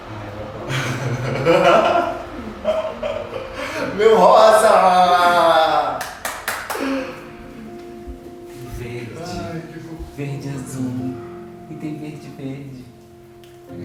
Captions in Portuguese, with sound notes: (risos) Meu rosa! (palmas) Verde! Verde e azul! E tem verde e verde!